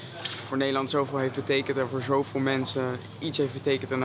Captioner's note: Dutch spoken audio